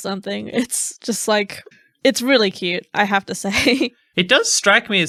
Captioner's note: laughing